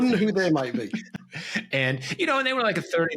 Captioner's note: laughs